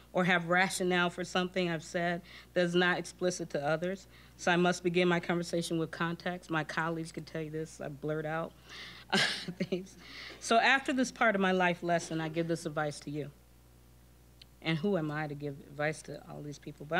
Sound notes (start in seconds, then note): 9.1 chuckling